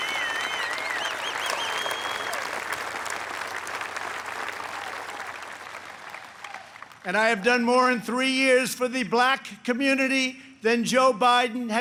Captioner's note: applause